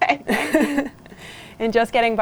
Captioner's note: laughs